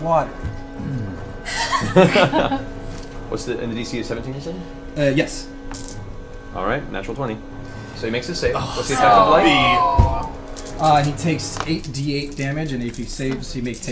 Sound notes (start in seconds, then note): 1.5 all laugh; 8.5 all groan